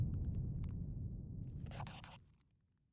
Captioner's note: scribbling